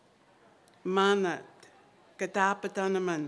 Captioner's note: non-english speech